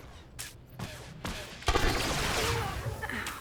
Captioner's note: gunshots